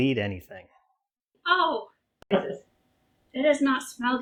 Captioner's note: disgusted sounds